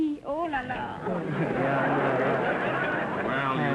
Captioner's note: audience laughter